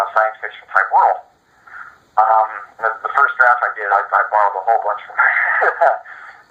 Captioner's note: laughes